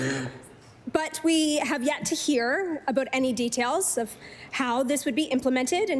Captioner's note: coughing